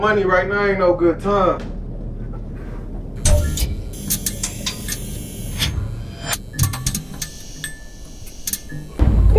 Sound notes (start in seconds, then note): 3.1 electricity buzzes